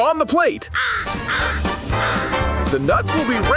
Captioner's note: crow cawing